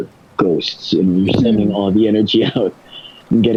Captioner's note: laughs